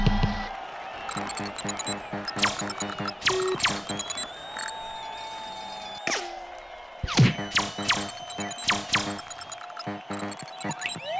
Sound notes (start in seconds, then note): 1.0 electronic beeping